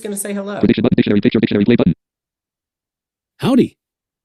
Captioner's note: screen reader narrating extremely rapidly